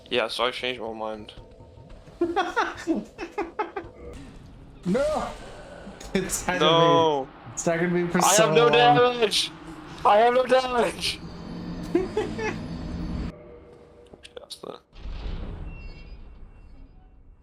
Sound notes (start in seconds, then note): 2.1 laughs; 11.8 chuckles